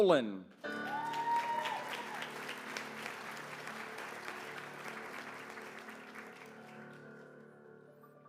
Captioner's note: applause